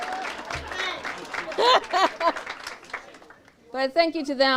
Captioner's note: audience applauds; audience cheers and applauds